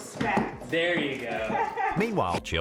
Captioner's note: laughs